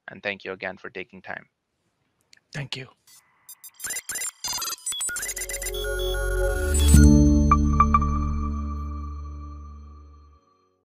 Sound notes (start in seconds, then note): 3.5 robot beeps; 5.5 light music